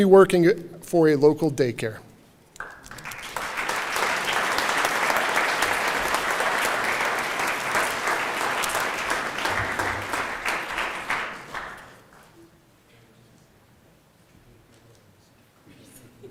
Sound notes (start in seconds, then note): 0.0 applause